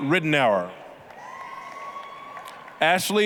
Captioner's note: applause, cheering